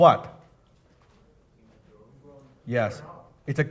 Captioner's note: audience mumbling